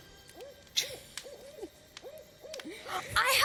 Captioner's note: chuckles